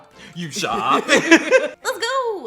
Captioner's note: laugh